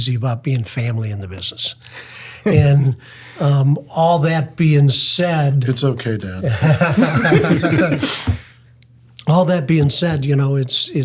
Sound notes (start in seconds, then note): 6.4 group laughs